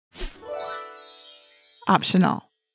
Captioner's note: chimes ringing